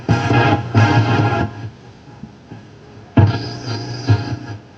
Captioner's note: radio static hissing